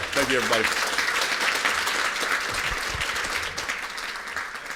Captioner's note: applause